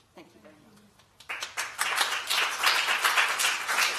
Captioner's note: applause